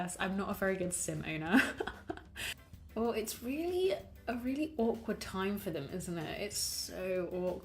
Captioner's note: laughs